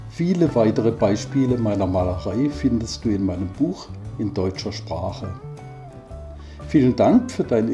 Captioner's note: in German